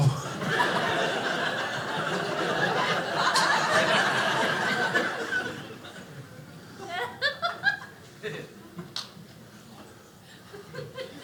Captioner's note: audience laughing